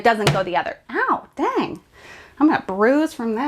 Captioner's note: arms thudding